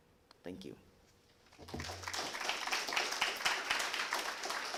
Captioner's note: applause